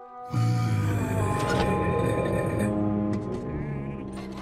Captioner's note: Attila grumbles